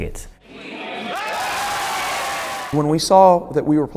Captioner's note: cheering